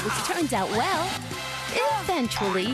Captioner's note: quack